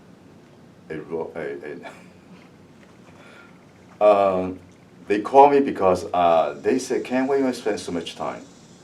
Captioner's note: laughs